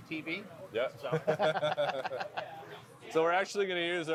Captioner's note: both laugh